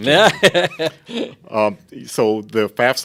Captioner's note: laughs